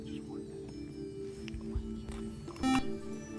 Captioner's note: beep